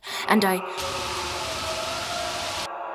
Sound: distant screams

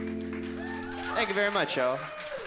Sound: cheers and applause

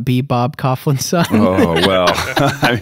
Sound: laughter

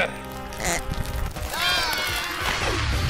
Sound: Sock grunts in exertion; Team 3 screams

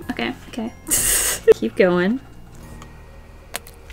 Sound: laughs

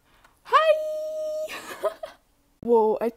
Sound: laughs

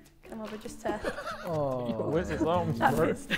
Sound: Josh laughing

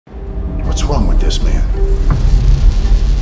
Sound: voiceover

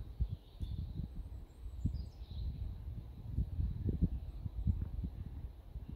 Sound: gentle bird song

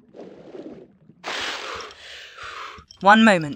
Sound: breathing

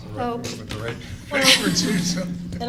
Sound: laughing

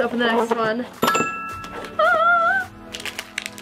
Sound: ding

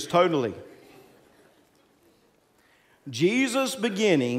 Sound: congregants laughing

